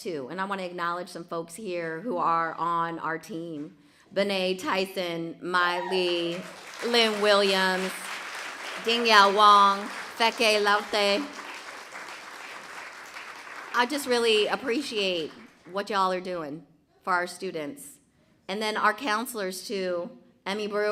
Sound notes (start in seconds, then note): 11.1 applause